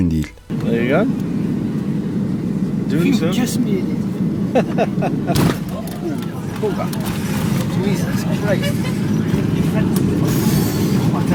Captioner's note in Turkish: Uçak Kabin İçi Konuşma Sesleri